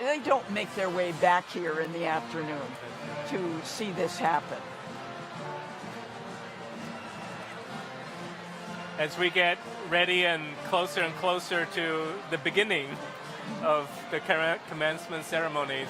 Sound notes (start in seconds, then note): 5.0 crowd chattering distantly; 5.0 upbeat band music continues